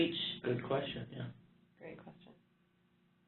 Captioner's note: voiceover